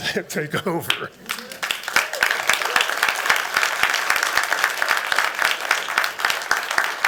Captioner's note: applause